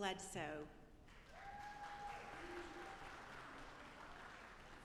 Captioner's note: audience applauding